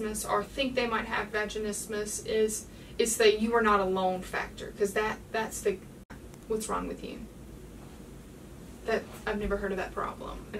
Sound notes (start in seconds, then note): none